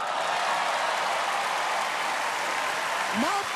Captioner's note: cheering and applause